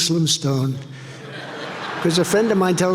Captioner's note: audience laughing